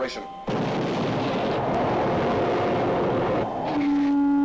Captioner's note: engines fire; alarm sounds